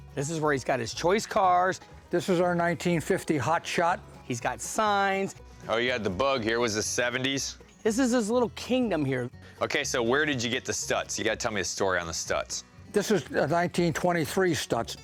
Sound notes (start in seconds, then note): none